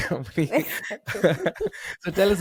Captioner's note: laughing